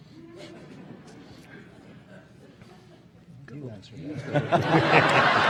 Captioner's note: audience laughing